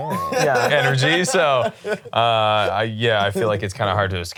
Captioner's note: laughs